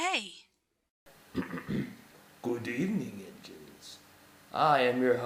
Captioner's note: clears throat